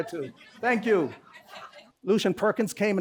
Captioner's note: laughter